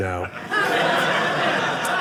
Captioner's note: audience laughing